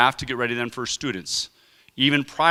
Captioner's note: none